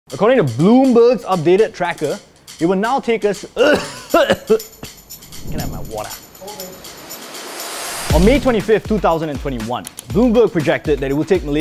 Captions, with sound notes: According to Bloomberg's updated tracker it would now take us-*cough* On May 25th 2021, Bloomberg projected that it would take Malaysia